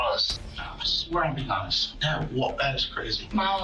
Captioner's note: stammers